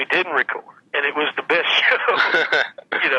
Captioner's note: laughs